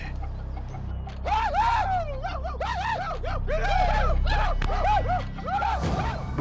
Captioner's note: men whooping